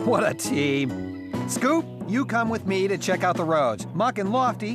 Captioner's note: none